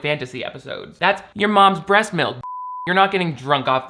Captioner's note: beep